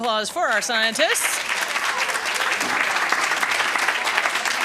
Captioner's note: applause